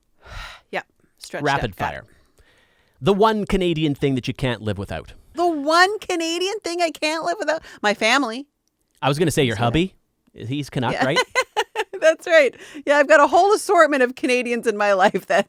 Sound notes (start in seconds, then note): 10.8 laughing